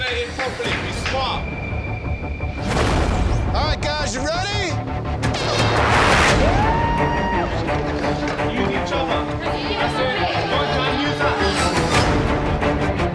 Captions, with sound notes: - Coordinate it properly, be smart! - All right guys, you ready? (crowd cheers) (suspenseful music)